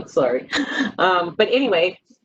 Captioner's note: laughing